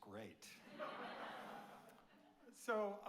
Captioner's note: audience laughing